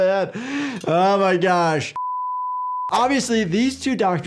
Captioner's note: screen beeping